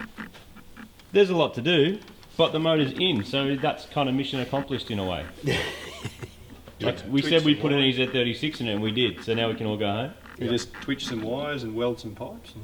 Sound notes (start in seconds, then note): 5.2 laughs